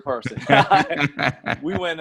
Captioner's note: both laugh